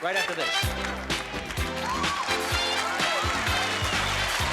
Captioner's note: cheering and applause